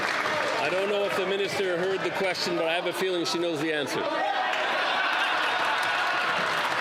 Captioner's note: some Applause